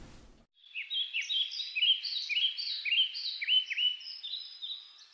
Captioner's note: birds Chirping